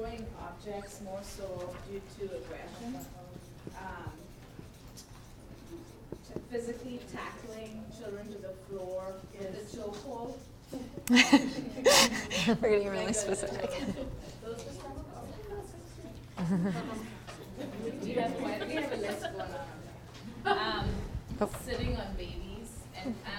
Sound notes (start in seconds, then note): 16.3 laugh